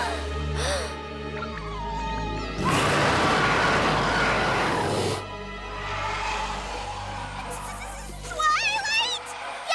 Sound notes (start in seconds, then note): 0.5 gasps; 1.6 tweet!; 2.5 roars